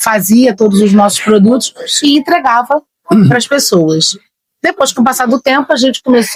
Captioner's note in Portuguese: limpando a garganta